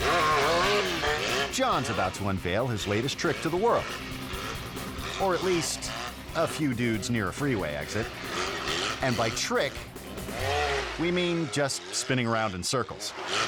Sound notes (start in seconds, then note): 0.1 motorcycle buzzing; 4.3 motorcycle buzzing; 8.3 motorcycle buzzing; 13.2 motorcycle buzzing